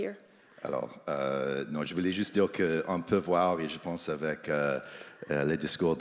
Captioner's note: speaks French